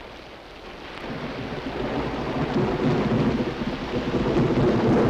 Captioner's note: thunder rumbling